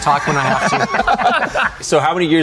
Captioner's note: all laugh